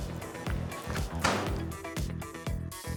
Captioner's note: feet stomps